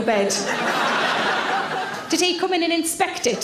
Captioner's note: audience laughs